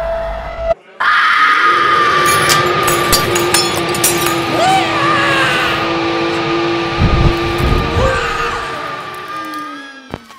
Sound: scream

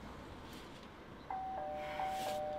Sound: door Bell

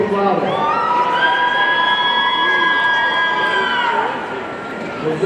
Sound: audience cheering

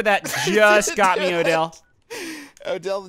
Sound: laughing

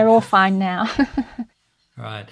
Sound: chuckles

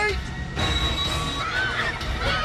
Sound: train screech

